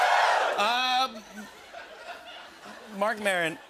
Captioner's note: laughter